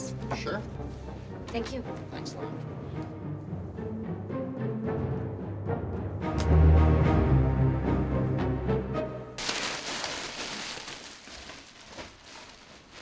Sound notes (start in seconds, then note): 9.4 bag rustling